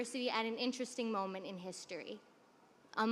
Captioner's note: none